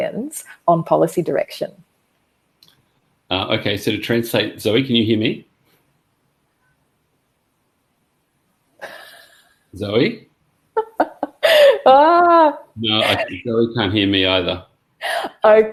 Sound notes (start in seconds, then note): 11.1 laughs